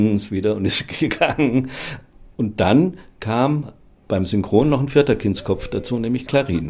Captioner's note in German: lacht